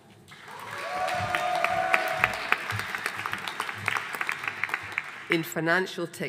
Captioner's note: audience cheering and applauding